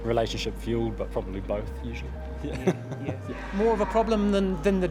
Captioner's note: chuckles